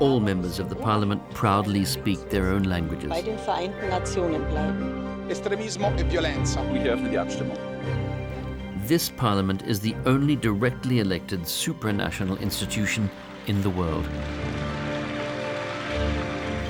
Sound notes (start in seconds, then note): 5.1 speaking various languages; 14.4 applause